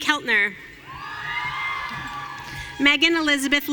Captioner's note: audience cheering